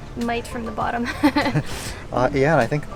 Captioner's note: chuckles